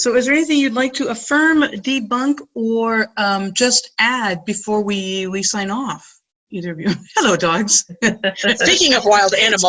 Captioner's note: laughing